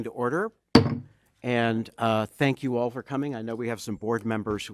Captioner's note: bangs gavel